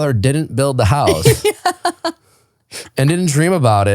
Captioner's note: laughing